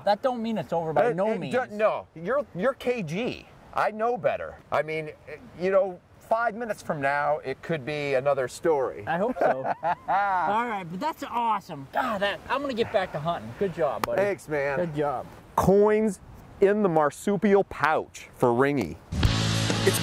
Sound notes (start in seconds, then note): 9.1 laughter